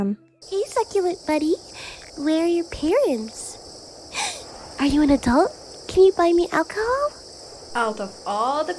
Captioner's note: gasp